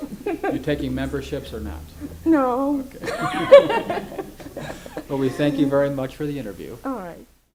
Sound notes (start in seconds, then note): 0.0 laughs